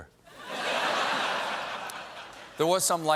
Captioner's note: laughter